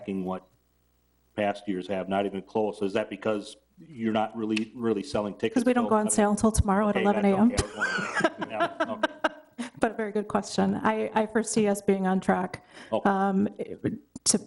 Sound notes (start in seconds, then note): 7.0 giggles